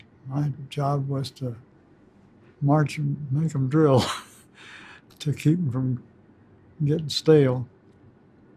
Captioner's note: chuckles